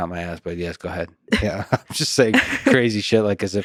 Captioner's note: laughs